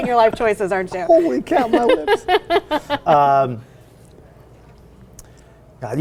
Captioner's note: laughing